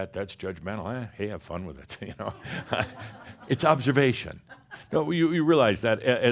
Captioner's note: some chuckles